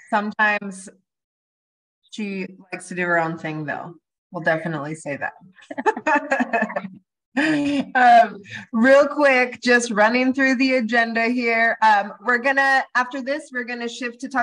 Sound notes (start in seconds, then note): 5.6 laughs